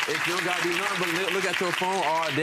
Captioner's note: audience applauding